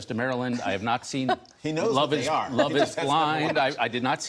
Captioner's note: laughter